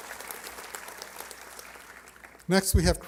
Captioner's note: applause